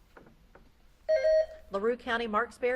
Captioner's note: beep buzzing